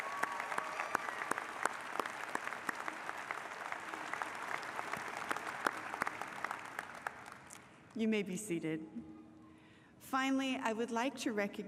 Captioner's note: applause